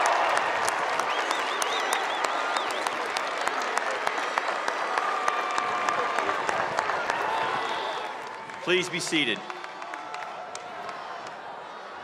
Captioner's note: cheers and applause